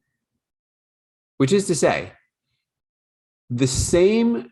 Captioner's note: speaking in foreign language